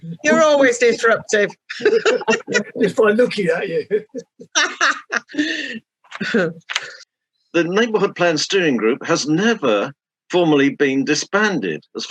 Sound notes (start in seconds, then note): 4.4 laughing